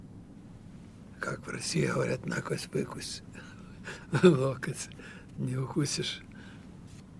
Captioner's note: russian